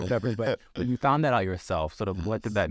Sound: Sasha laughs

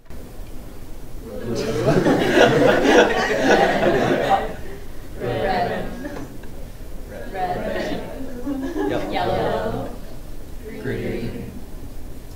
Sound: laughter

